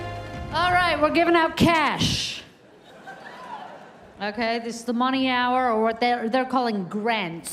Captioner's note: cheers and applause